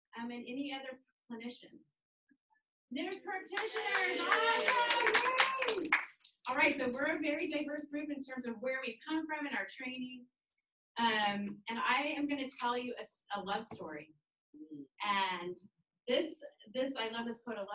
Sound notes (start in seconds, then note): 3.6 cheers